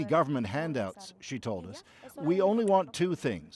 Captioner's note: speaking alternate language